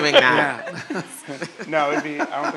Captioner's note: laugh